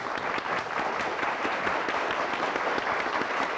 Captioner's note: applause